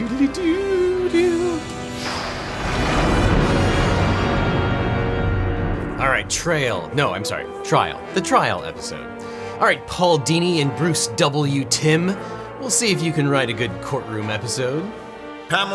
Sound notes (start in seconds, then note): 1.8 thunder crashing